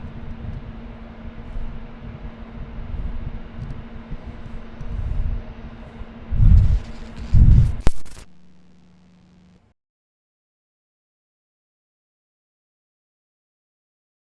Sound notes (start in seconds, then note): 4.1 camera whirs; 6.3 heavy breathing; 7.9 Static